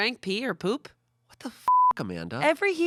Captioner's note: beep